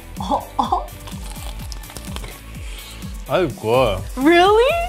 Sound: chicken crunches

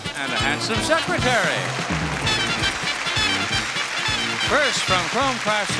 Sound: crowd claps

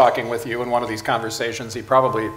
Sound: none

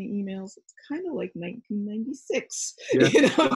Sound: laughs

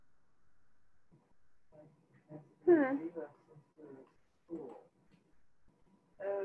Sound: speaking faintly

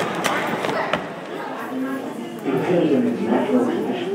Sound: echoes of large hall replaced by voices in enclosed space

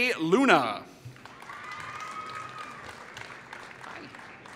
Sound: applause

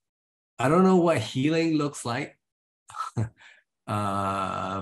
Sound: he chuckles

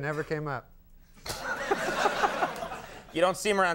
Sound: Conan laughing; audience laughing

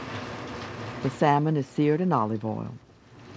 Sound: voiceover

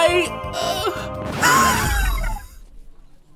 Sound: exhales, powering down

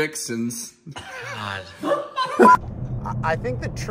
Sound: laughs

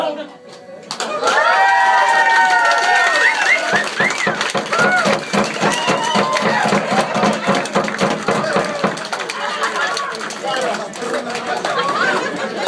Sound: applause

